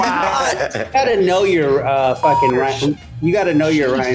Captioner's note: beep